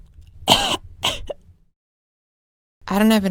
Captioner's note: cough